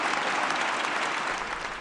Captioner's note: applause